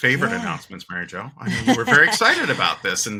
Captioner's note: laughing